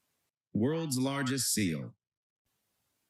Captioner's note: AI speech